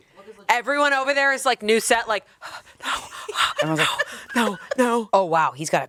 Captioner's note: panting